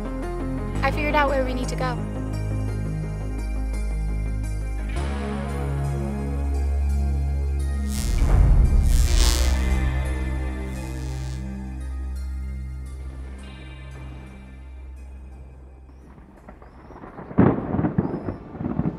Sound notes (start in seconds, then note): 7.1 dreamy electronic music; 10.5 time travel sounds; 15.8 thunder